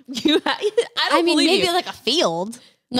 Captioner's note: laughs